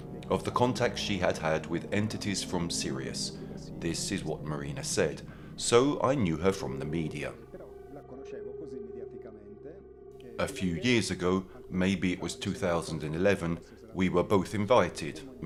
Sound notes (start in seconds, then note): 7.6 dramatic music continues; 7.6 speaking in foreign language